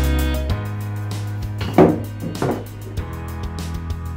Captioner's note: clattering